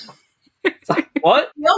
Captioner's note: laughs